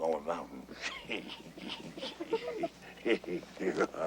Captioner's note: all chuckle